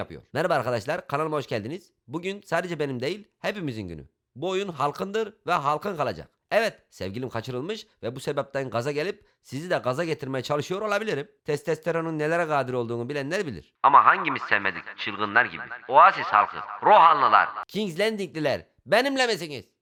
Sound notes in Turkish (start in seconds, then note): 13.9 Hoparlörden gelen ses